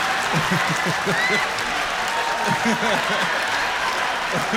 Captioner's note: laughter; cheers and applause